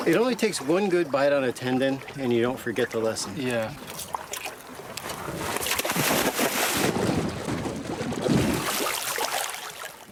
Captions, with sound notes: It only takes one good bite on a tendon, and you don't forget the lesson. - Yeah. (water splashing)